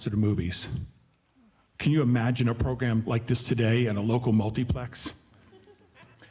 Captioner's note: audience laughing